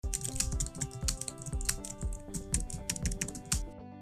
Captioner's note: keyboard clanking